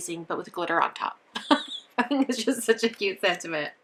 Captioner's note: chuckles